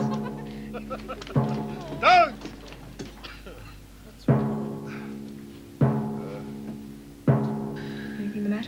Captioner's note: laughter